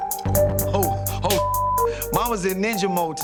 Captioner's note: beeping